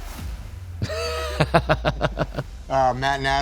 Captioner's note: laughing